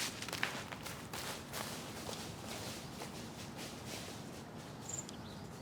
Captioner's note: leaves rustling under footsteps